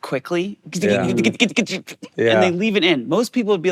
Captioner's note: imitating guitar sounds